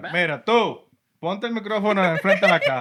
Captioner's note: speaking Spanish